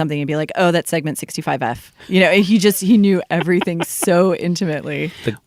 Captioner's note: laughter